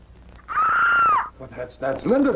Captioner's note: shriek